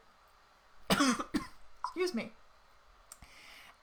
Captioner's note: coughs loudly